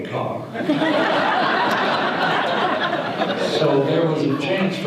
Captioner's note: audience laughter